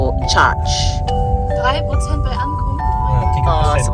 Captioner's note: speaking German